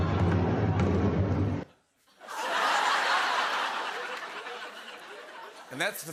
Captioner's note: drumming; laughter